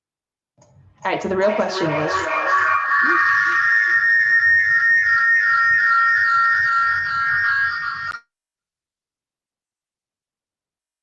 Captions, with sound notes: Alright, so the real question is...[terrible feedback noises] [terrible feedback noise continues]